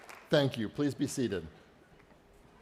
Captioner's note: applause